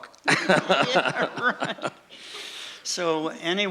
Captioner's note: laughing